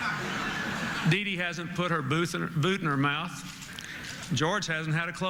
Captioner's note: laughter